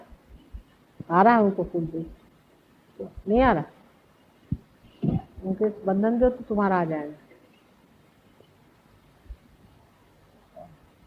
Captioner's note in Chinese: 母親用印地語對某人說話